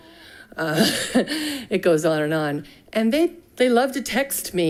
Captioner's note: chuckles